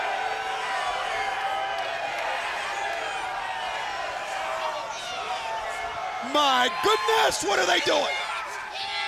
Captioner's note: crowd cheering